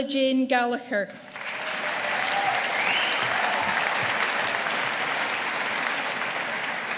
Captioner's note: audience applauding